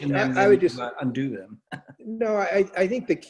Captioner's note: laughs